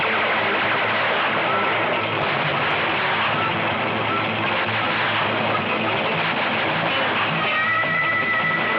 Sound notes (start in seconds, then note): 2.1 explosion booming